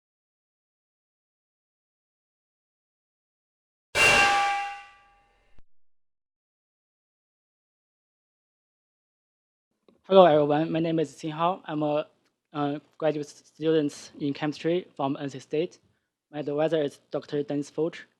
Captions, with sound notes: (metal clanging) - Hello everyone, my name is Xinhao. I'm a graduate student in Chemistry from NC State. My advisor is Dr. Denis Fourches.